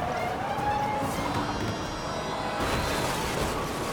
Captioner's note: tires screeching; car thuds; car crashes